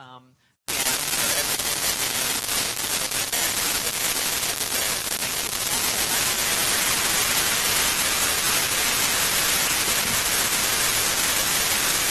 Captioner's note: noise in signal